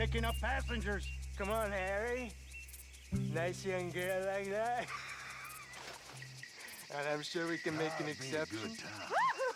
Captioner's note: laughs